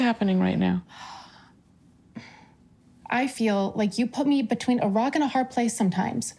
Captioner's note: sighs